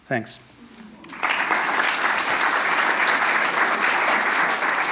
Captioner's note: attendees applauding